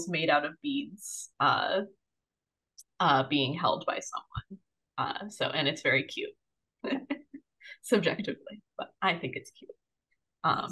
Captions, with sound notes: made out of beads being held by someone. And it's very cute. (chuckles) Subjectively, but I think it's cute.